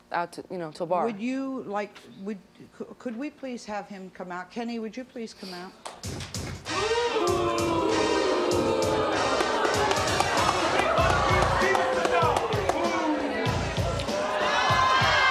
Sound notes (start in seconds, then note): 6.6 audience boos; 7.9 hip-hop music